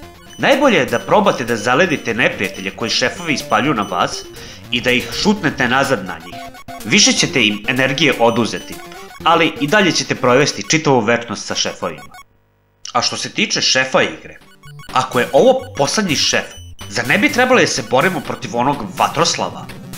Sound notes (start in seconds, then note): none